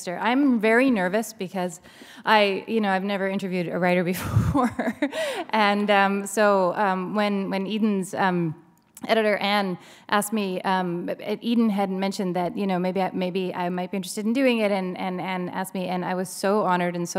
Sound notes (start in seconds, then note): 4.2 chuckle